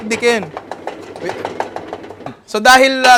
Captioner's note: smashing intensifies